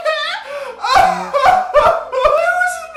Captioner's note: sobbing